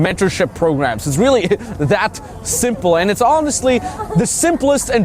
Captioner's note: laughing